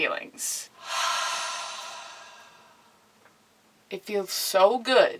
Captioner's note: exhales